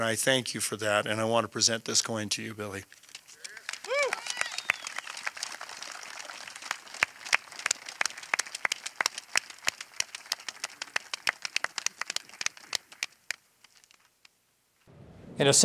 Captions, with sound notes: and I thank you for that, and I want to present this coin to you, Billy. (audience applauding and cheering) (audience applauding continues)